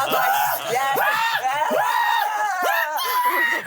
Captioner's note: everyone laughs; manic yelling